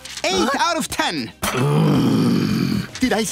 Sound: growling

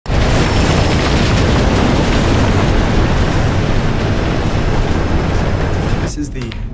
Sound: train rumbling

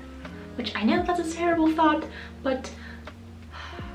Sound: sighs

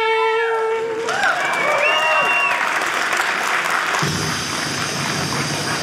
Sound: audience cheering; TV static noises

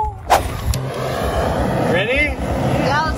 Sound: engine revs

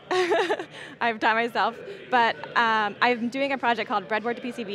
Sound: laughing

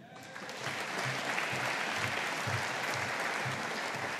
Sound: audience applauding

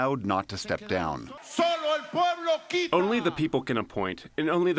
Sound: through translator

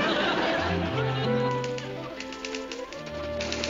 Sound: typewriter clacking

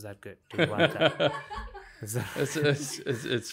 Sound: laughing

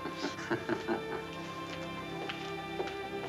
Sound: chuckling

